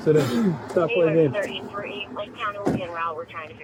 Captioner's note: radio chatter